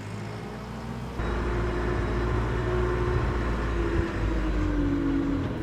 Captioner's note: machine rumbling